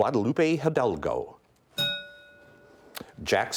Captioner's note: bell rings